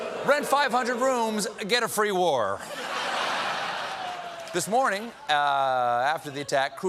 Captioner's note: laughter